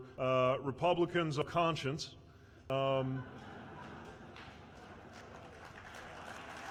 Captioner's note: laughter/applause